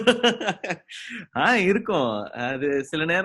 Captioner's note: laughs